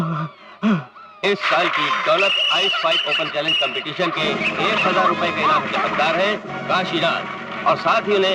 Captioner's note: applause